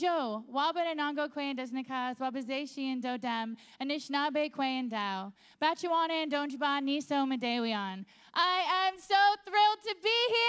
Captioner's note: speaking Indigenous language